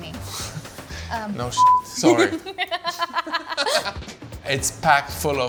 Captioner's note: beep; laughs